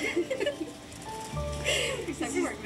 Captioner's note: talking quietly